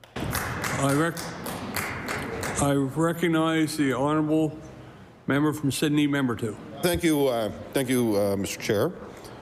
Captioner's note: applause